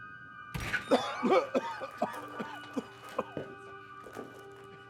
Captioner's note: Darlus coughing